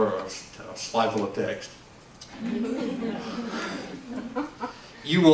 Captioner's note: laughs